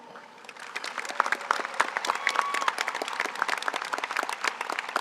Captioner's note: audience applauds